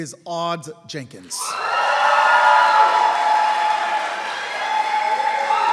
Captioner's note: applause